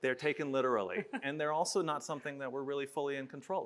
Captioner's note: chuckles